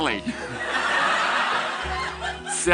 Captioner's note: Amanda's internal demons laughing at her